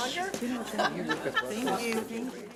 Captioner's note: laughing and talking at the same time